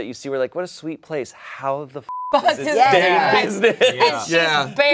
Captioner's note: beep